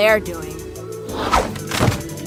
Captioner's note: slip, thud